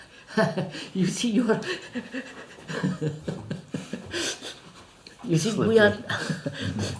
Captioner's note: laughs